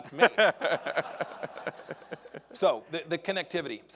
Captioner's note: audience laughing